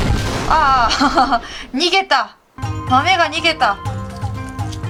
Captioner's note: laugh